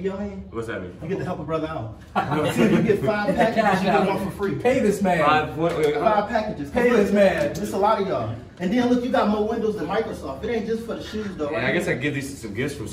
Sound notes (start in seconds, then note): 2.1 laughing